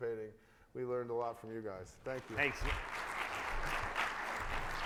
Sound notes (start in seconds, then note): 2.1 audience clapping